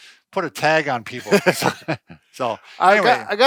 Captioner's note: laughing